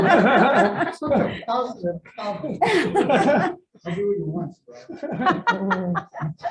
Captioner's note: audience laughing